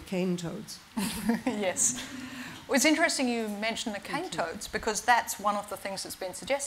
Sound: laughs

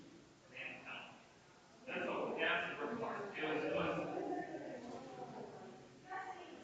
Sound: people chattering distantly continues

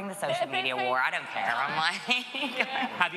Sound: laughter

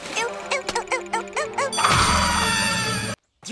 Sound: screaming

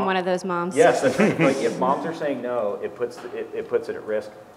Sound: laugh

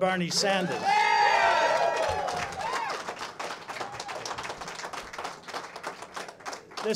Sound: cheers and applause

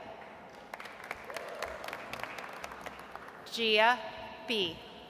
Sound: audience applauds

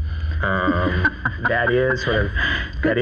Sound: laughs

